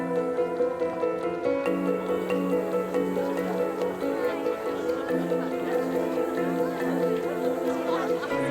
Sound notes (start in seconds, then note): 3.9 distant chatter